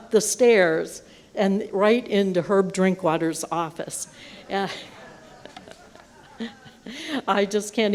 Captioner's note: laughter